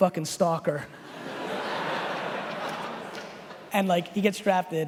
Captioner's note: laughing